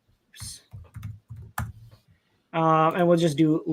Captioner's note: keyboard clacking